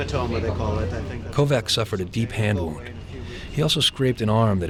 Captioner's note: voiceover